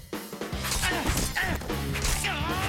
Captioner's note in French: grognements d'efforts